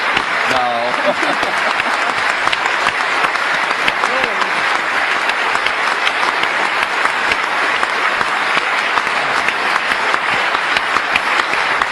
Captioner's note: applause